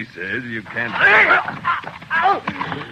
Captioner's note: grunting